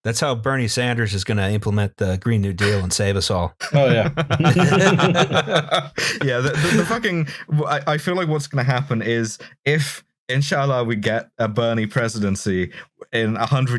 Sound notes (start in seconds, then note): 3.6 laughter